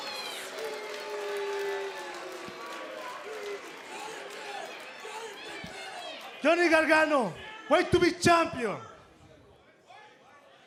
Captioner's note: cheers and boos